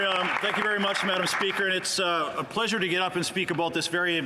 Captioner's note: some Applause